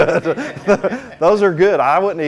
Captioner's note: laughs; students laughing